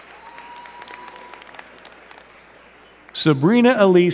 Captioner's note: crowd cheering and clapping